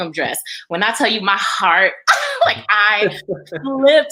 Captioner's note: laughs